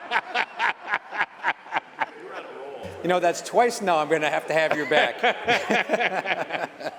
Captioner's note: laughter